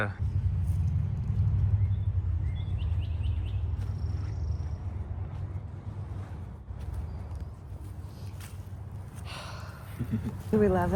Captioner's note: birds chirping